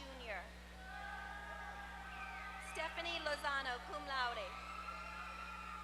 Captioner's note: applause